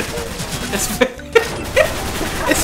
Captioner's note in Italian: risate